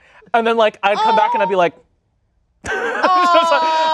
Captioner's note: laughs